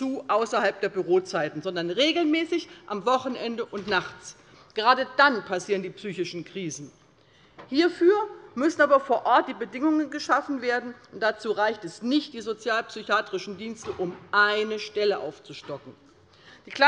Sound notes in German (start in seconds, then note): none